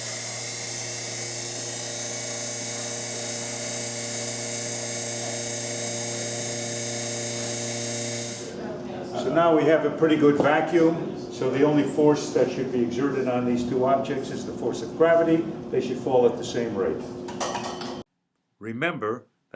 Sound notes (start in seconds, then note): 0.0 hissing sound of vacuum pump